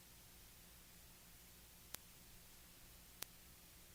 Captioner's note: clicking